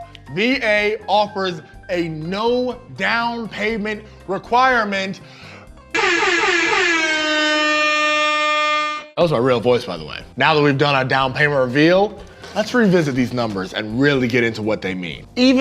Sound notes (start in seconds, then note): 5.9 buzzer sounds